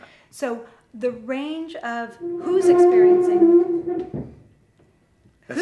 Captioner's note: furniture moving upstairs